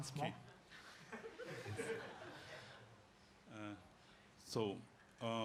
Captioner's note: audience chuckles